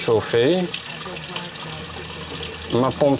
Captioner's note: water flowing